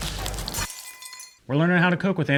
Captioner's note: glasses clink